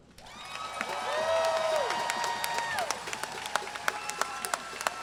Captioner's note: crowd cheer and clapping